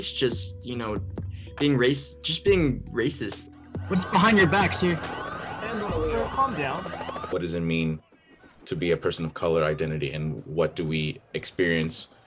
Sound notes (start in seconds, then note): 3.7 sirens